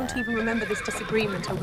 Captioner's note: horses neigh